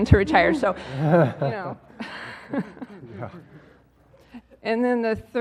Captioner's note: laugh